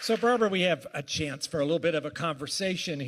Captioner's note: applause